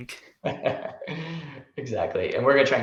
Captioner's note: chuckles